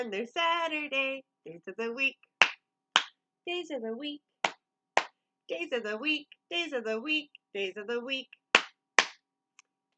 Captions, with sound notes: Saturday. Days of the week [clap, clap] Days of the week [clap, clap] Days of the week, days of the week, days of the week [clap, clap]